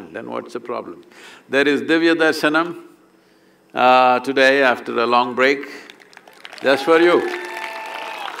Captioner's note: cheering/Applause